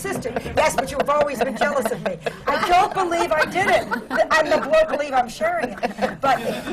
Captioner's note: laughter